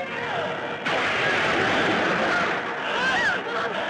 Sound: thunder Rumbling

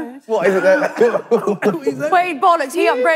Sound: laughing

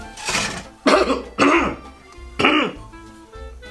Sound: coughs

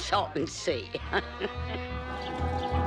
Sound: laughs

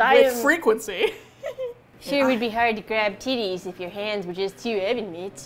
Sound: laughs

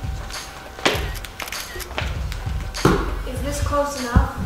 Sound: camera clicking

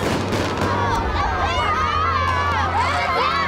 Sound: children cheering

